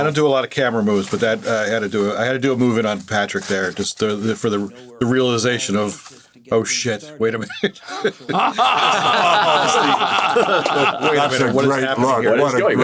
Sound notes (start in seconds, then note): 7.4 chuckles; 7.4 all laughing